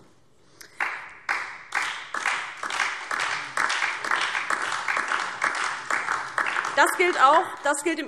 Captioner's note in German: Beifall DIE LINKE und Freie Demokraten